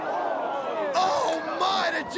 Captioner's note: crowd cheering